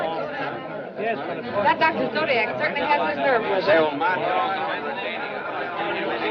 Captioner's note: chattering Continues